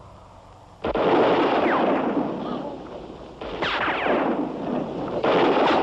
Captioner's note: gunshots; observers gasp